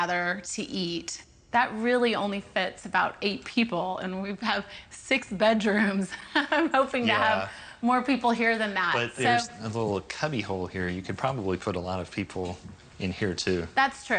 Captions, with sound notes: to gather to eat. That really only fits about eight people, and we have six bedrooms [LAUGHS] I’m hoping to have. > Yeah > More people here than that. So. > But that little cubby hole here, you could probably put a lot of people in here too.